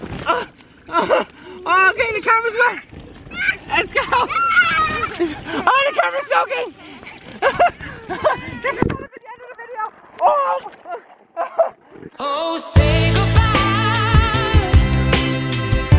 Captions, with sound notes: Ahhh I'm getting the camera wet! Let's go! Ahhh the camera's soaking! This is not a good end to the video! Ohhhh! *laughing* *outro music*